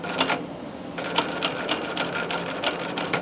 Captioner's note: sewing machine rattling